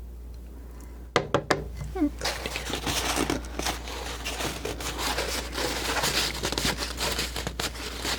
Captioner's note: scratching